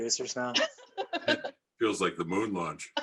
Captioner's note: laughs